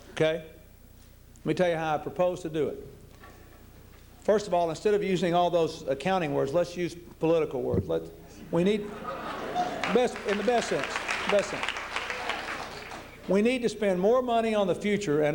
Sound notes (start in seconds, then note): 8.8 laughter